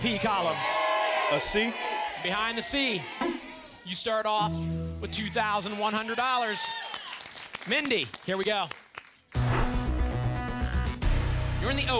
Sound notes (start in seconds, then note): 5.5 audience applause